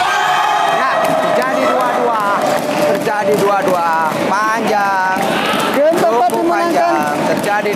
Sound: applause

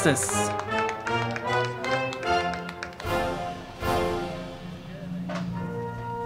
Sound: crowd clapping; band music

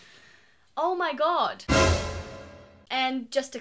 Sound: suspense sound effect

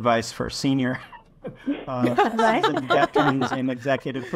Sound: laughing

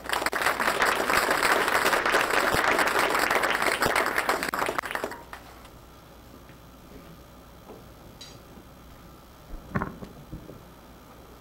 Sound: audience applause

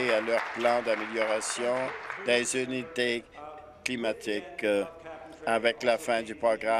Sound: applause

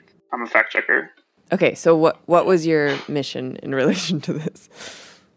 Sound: chuckles

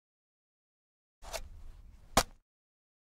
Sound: sound of digging

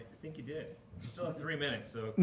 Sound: voiceover

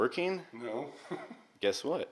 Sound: laughs

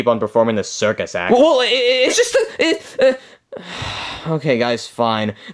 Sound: sighing

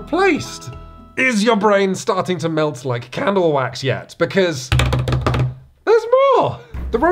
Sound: drums on table

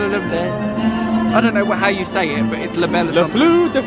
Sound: speaks in French

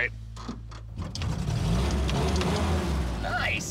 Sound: engine revving

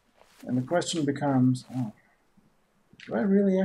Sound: none

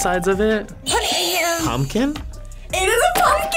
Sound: buzzer rings

